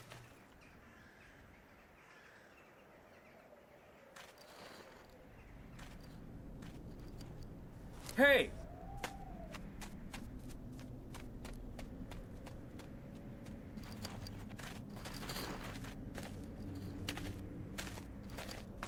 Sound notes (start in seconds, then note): 0.2 cracking; 7.1 scraping metal; 14.8 scraping metal